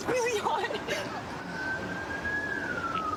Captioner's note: siren wailing